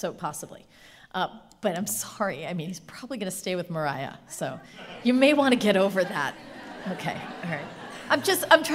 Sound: laughing

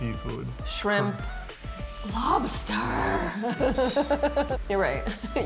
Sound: laughing; chuckling

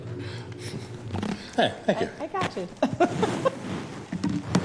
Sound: laughter

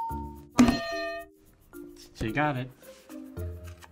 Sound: ding; hitting bell

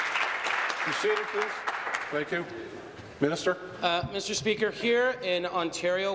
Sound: applause

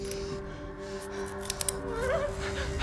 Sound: hammer clicks

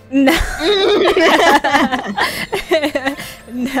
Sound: both laughing

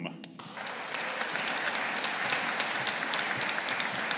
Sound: audience applauding

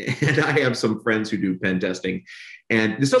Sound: laughs

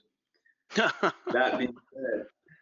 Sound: laughs

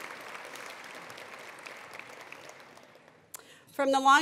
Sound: attendees applauding

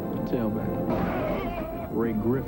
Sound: football game noise

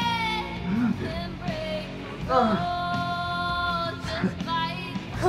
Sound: 5-37 struggles to breath

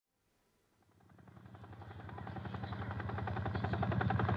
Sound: helicopter rotors droning

